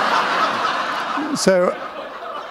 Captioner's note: laughter